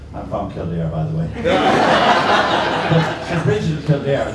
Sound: laughter

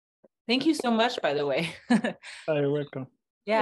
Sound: chuckles

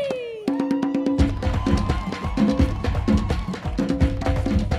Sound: audience cheering

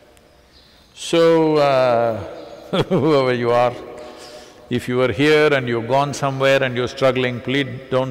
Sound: laughs

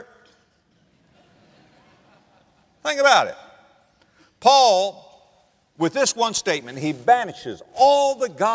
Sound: audience laughter

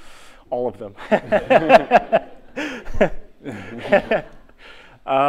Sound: laughter

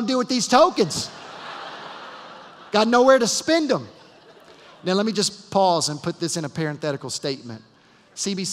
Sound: laughter

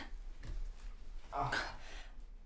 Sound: grunt

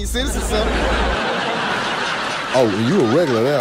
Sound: laughs

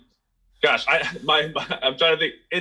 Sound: laughs

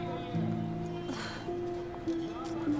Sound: sighs

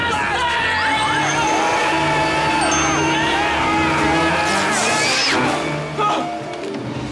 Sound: screaming

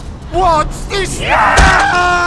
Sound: zombie scream; Demoman screams in pain

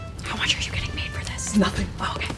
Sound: whispering

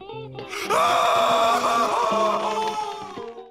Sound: screaming

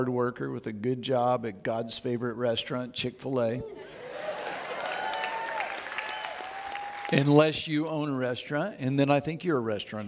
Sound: audience Cheers

